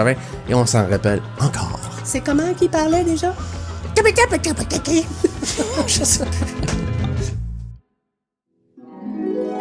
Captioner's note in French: rires